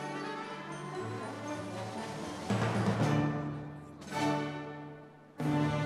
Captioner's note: audience members cheering